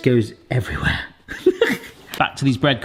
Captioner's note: giggles